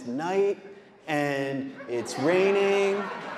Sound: audience laughing

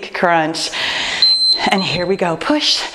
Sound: timer beeping

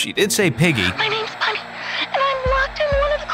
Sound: voice On Walkie

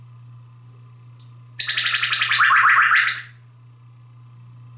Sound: laser sound

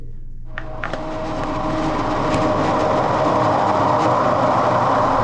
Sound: blender whirring

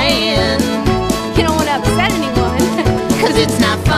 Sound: giggles

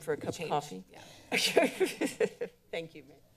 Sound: members giggling

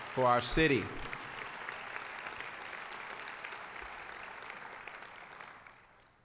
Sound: applause

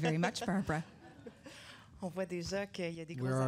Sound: audience laughter

